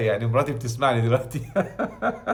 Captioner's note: sarcasm!